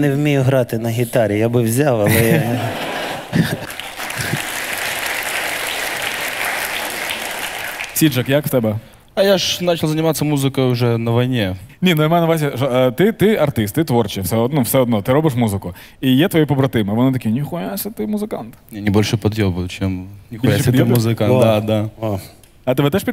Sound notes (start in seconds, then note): 3.6 the audience cheers